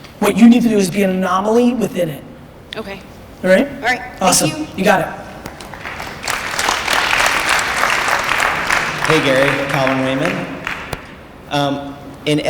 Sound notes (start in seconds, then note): 5.4 applause